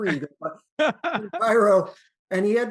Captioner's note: chuckles